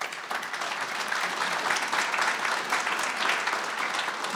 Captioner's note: audience applauding